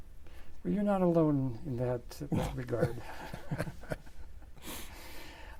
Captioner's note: laughs